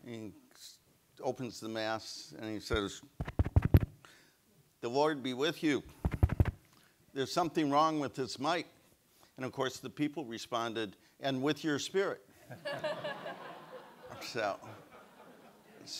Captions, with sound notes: And he opens the Mass, and he says, (mic pops) "The Lord be with you. (mic pops) "There's something wrong with this mic." And of course, the people responded, "And with your spirit." (audience laughs)